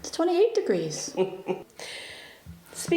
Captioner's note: Gert laughs